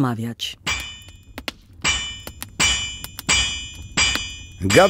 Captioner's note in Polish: dźwięk kucia stali